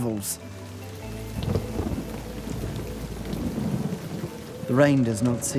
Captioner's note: thunder rumbles